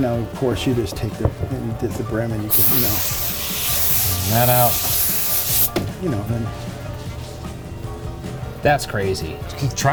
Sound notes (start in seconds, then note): 4.6 steam hissing; 7.2 upbeat music continues